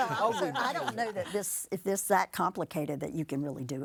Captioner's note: group laughing